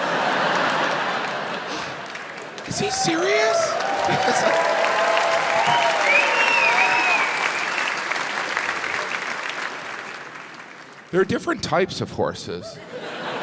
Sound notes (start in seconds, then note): 0.0 crowd laughs; 3.6 crowd cheers